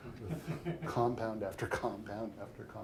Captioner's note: chuckles; audience chuckling